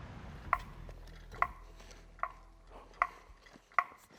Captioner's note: tool tapping